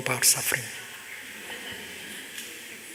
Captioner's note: laughter